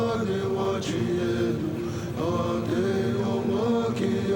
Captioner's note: native vocalizing